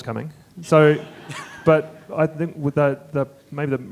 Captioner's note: audience chuckling